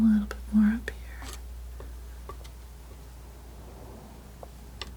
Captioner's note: scratching